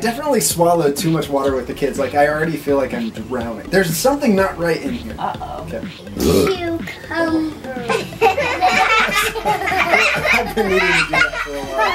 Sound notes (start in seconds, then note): 6.1 Belch; 7.5 laughing